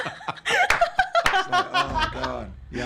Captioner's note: laughing; clapping